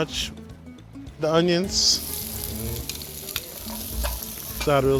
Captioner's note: onions sizzling